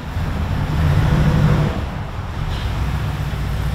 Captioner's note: engine hums